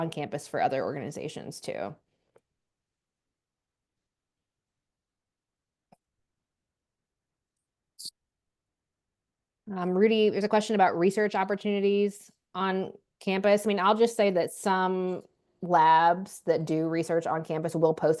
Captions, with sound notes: on campus for other organizations too. [silence] Rudi, there is a question research opportunities on campus I mean, I'll just say that some labs that do research on campus will post